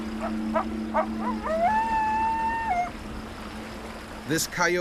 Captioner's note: howling; voiceover